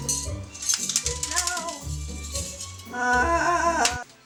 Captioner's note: frustrated groan